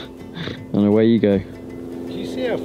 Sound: laughs

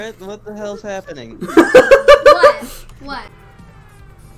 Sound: laugher

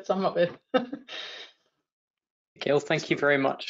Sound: laughing

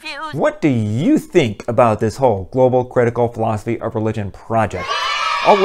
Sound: kids cheering

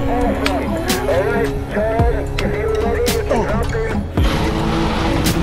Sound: over radio

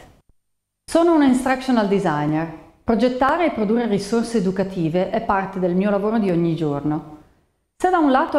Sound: Italian

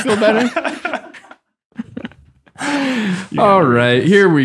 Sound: laughing

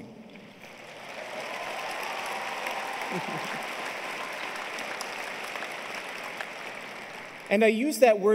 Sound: applause

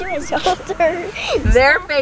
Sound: laughs

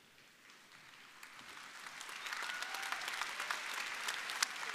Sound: audience applauding

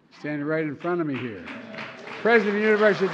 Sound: applause

